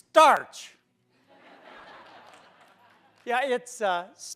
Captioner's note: laughter